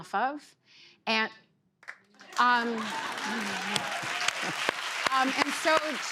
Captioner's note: laughter and applause